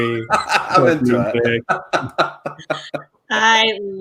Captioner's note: laughing